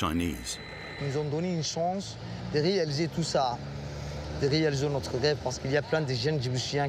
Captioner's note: speaking foreign language